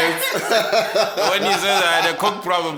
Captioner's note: everybody laughing